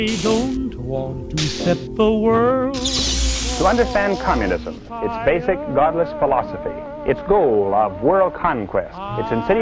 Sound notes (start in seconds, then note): 3.7 television